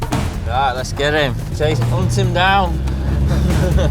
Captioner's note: laughing